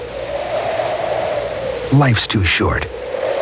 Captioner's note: wind blowing